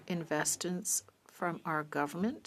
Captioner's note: speaking French